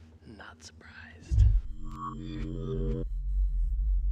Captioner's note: creepy sounds